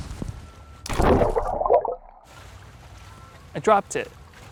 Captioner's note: phone plunges